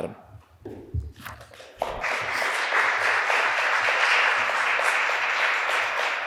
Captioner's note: applause